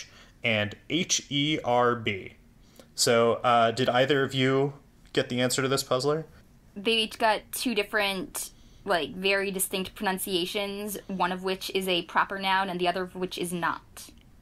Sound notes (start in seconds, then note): none